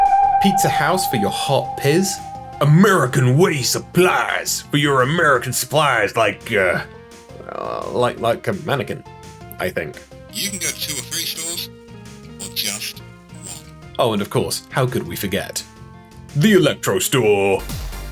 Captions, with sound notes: Pizza House for your Hot Pizz! American Way Supplies for your American supplies, like... uh... like, like a mannequin. I think. *old TV speaker noise* - You can go to two or three stores, or just one! Oh, and of course, how could we forget the electro store?